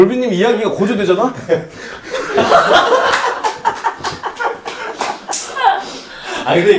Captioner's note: breathing gets heavier with the story